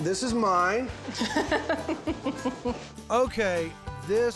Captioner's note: cuts him off giggling